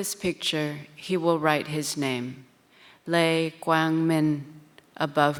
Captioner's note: speaks in foreign language